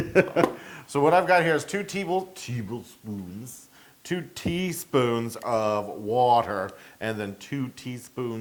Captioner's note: laugh